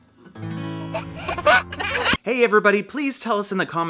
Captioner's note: laughing